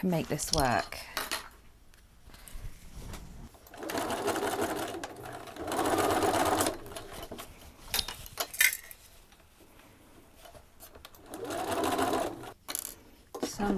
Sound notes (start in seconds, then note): 1.2 sewing machine whirrs